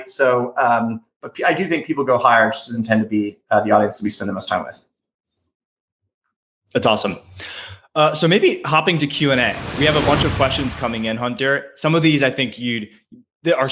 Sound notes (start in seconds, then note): 9.0 explosion resonating; 9.1 frequency tones increasing